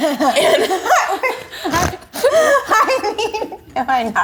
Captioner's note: all laughing